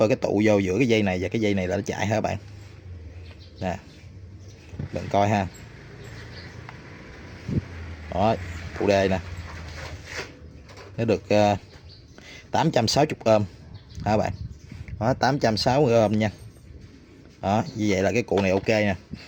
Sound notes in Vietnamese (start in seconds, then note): 12.1 khịt mũi